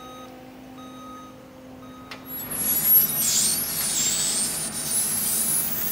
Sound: truck backing up and beeping

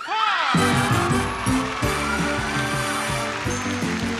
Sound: audience cheering

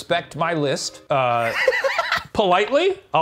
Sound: laughing

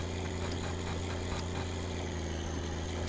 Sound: wipers turn on

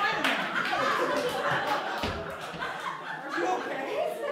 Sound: laughter

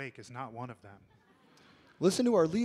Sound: audience laughs

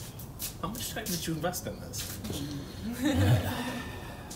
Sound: laughter

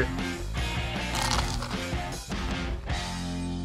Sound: crunch

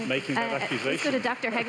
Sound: applause

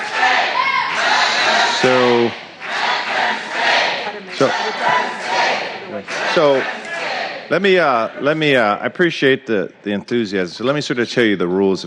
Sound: applause

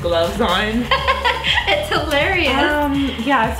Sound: giggles

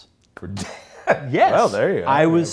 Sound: laughs

